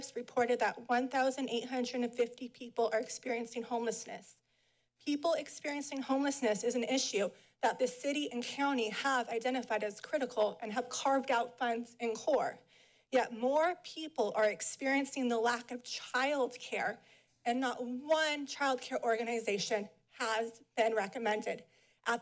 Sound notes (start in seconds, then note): none